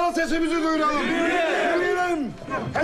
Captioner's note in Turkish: Hep bir ağızdan